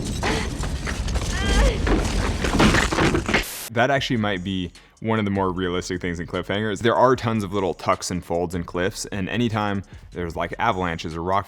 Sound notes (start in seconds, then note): 1.6 rocks rumbling